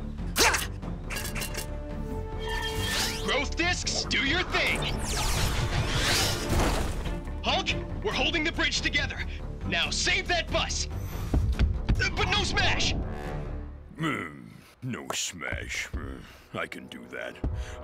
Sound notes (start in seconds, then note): 5.0 zap